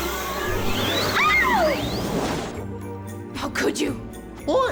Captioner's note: girl screams